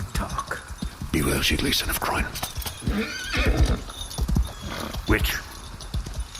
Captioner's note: steed whinnies